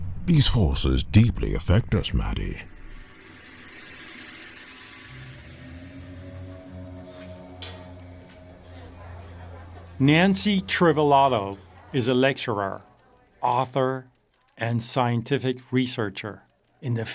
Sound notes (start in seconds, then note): 3.4 cymbals ringing; 6.5 eerie music; 8.4 crowd in a restaurant